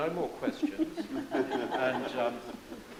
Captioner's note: group laughs